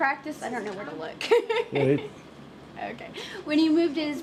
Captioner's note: laughs